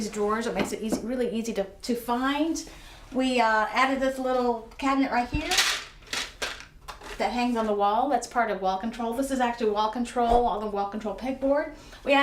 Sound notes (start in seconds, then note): 5.3 objects rattling